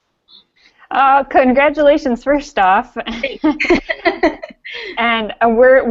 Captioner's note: laughing